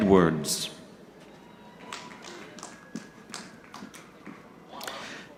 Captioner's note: audience clapping